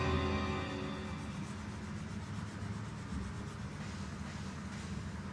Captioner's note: pencil scratching